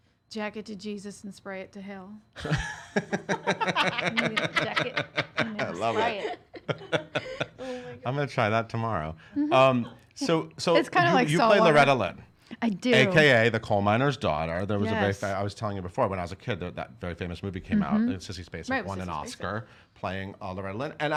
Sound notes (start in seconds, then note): 2.4 group laughing